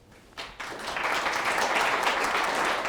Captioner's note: applause